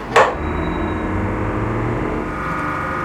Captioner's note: rising whirring; roaring whirring